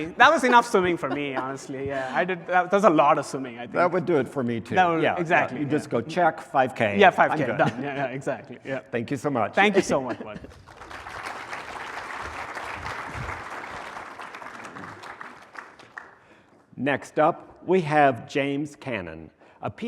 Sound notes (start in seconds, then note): 10.2 applause